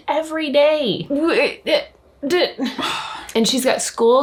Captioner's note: stammers